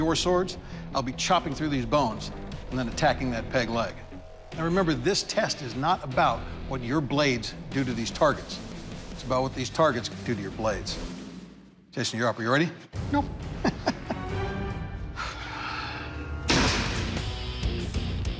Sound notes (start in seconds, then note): 13.5 chuckles; 15.1 sighs; 16.5 blade impact sounds